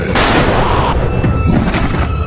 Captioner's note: screams